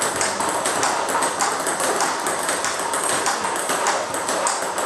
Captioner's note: ball ping pong hitting continues